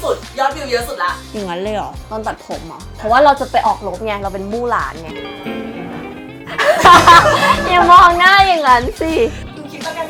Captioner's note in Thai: หัวเราะ